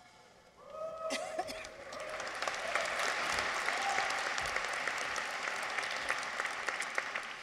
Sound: people cheer; audience applauds

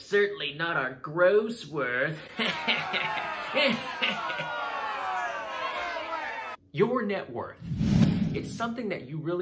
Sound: exaggerated laughter

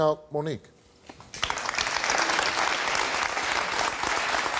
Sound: audience applause

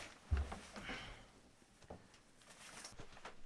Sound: none

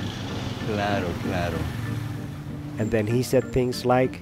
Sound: speaking in foreign language

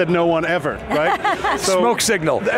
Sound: laughs

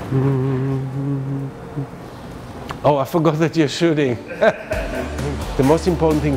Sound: humming; laughs

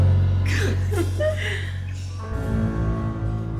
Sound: both giggling

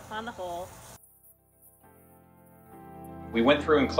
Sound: privacy mic cuts out audio

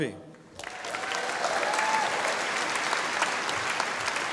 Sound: audience applauding

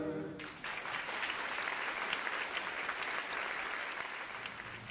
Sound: audience applauding

